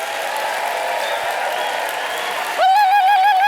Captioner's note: applause